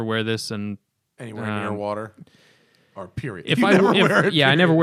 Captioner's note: laughter